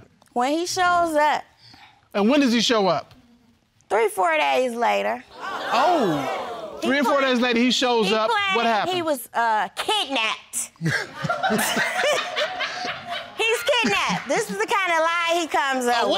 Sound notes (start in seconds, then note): 5.4 audience gasps; 10.9 all laughing